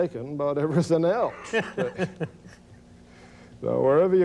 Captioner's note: laughs